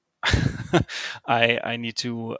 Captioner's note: laughs